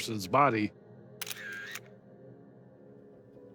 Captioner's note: camera clicks